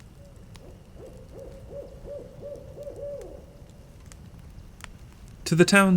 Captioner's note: owl hooting. Fire crackling